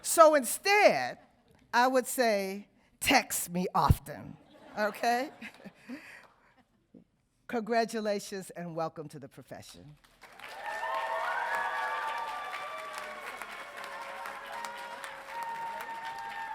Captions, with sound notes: So instead, I would say, text me often. Okay? (audience laughing) Congratulations, and welcome to the profession. (audience cheering)